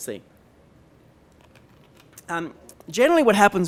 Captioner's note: pause